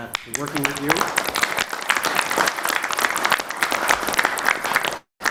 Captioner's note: applause